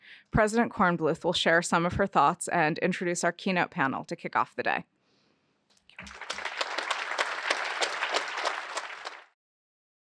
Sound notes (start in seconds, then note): 5.9 applause